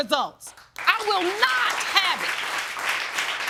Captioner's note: audience applauding